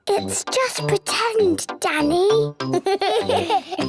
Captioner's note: whispers; giggles